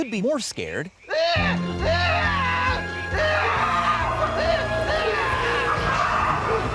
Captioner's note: man screaming manically; evil laughter